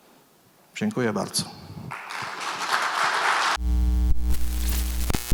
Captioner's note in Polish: Aplauz